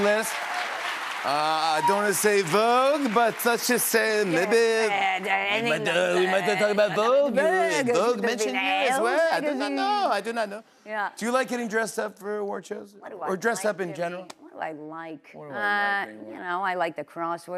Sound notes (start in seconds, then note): 5.2 French accent; 10.0 normal voice